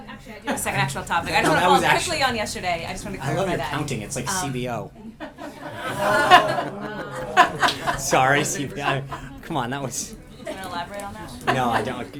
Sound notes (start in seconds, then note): 5.0 laughter